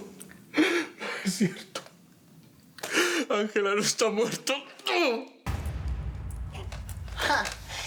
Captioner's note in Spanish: Sollozos